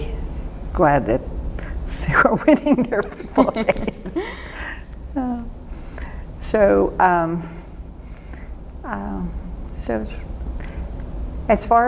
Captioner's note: laughter